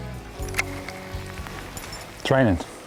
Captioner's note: rain falling